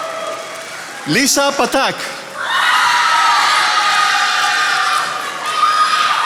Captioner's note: attendees applauding